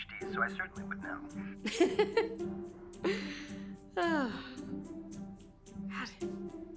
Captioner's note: laughing